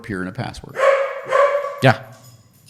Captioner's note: dog barking